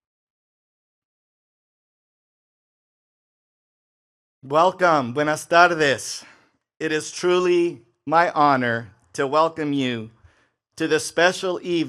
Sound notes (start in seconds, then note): 5.2 speaks in foreign language